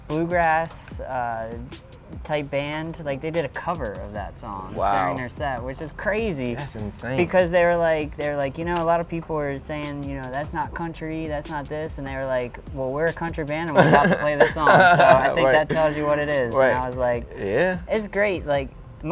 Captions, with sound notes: this bluegrass-type band. They did a cover of that song during their set. Which is crazy. - That's insane. - Because they were like, you know a lot of people are saying that's not country. That's not this. And they were like, "well, we're a country band and we're about to play this song." (laughs) - I think that tells you what it is. And I was like, it's great.